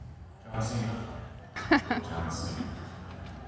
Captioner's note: Michelle laughs